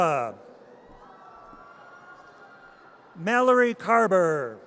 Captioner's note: audience cheers